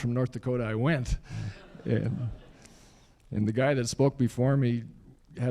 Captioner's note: laughter